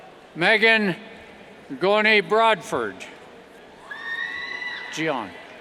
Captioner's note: cheers